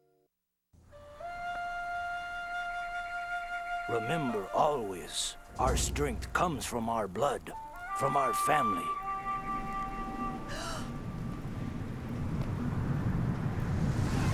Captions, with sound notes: Remember always... our strength comes from our blood, from our family. (gasps)